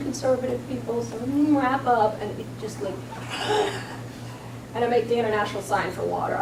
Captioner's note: exhales